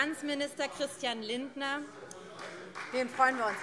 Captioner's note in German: Beifall Freie Demokraten